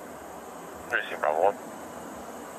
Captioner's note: radio chatter